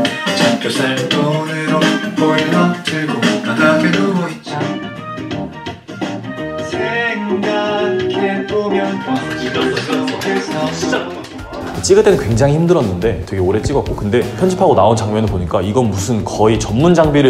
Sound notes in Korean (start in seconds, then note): 9.2 박수소리